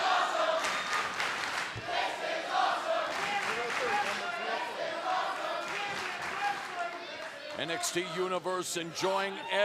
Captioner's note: fans chanting